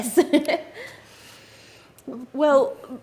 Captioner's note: laughs